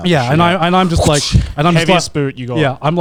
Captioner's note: imitating whip